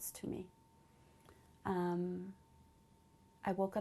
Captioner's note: pauses for 3 seconds